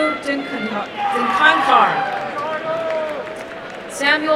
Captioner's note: applause and cheering